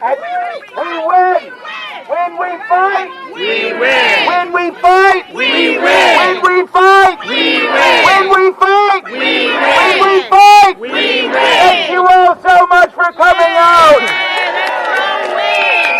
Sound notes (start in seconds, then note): 1.6 cheering; 10.8 chanting